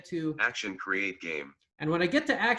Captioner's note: automated voice